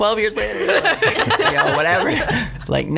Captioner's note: laughs